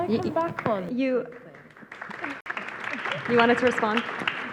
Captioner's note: audience applauds